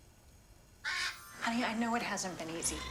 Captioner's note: bird squawking